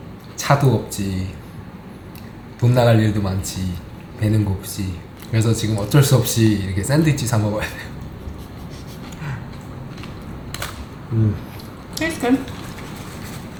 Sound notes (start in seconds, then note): 7.6 haha